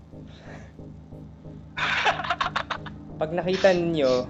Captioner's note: laugh